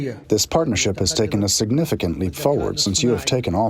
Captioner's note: through translator